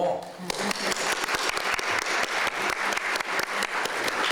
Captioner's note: applause